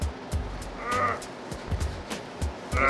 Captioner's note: grunts